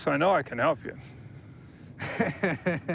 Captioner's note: laughs